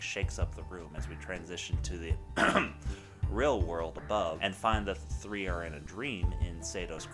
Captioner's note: ahem